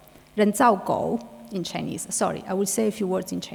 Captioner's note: speaking in foreign language